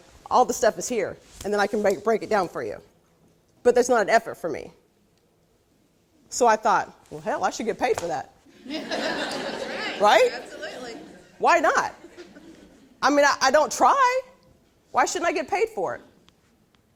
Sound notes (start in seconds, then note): 8.5 laughing